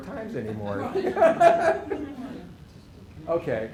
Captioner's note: laughter